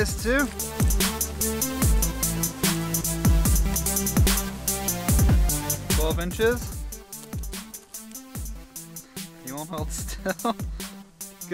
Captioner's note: laughing